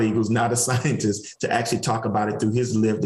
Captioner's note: chuckles